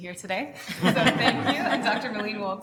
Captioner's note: all laughing